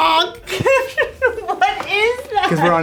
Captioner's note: group laughing